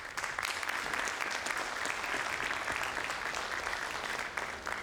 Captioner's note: audience applauds